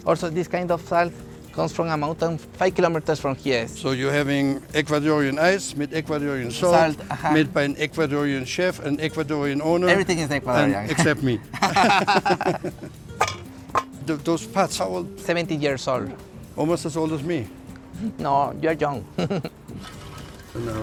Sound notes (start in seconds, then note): 12.1 both laugh; 13.1 pot clangs; 19.0 giggles